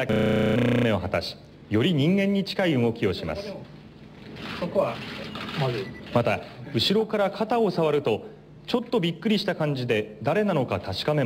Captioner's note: corrupt Audio; foreign Language